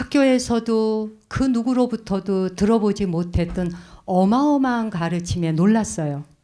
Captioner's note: speaking in Korean